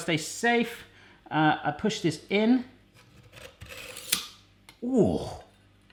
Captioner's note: blade grinding